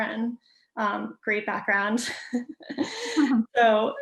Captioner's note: laughs